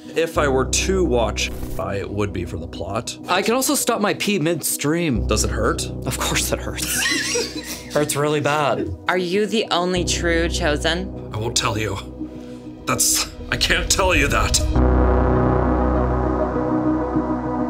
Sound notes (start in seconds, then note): 6.8 laughs; 14.9 dramatic music